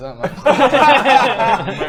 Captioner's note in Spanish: risas